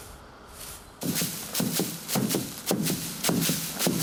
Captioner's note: rhythmic thumping